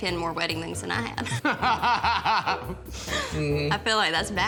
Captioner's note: both laughing